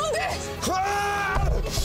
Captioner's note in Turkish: Bağırıyor